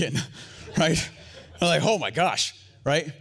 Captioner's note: audience laughs